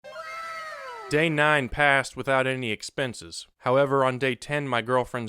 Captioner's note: meme sound effect